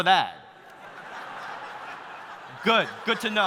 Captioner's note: audience laughing